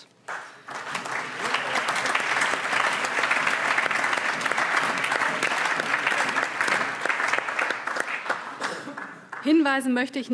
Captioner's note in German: Allgemeiner Beifall